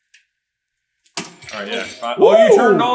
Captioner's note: squeak